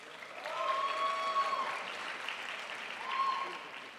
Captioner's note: crowd applauds